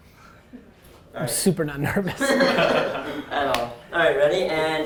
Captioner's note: group laughing